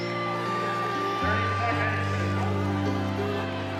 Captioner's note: crowd cheers get louder